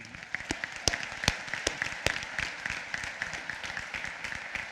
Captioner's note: applause